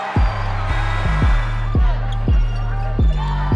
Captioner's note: whistle blow; buzzer